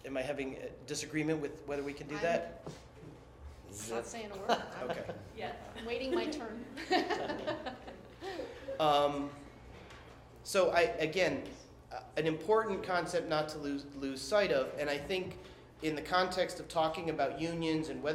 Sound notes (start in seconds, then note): 6.0 laughter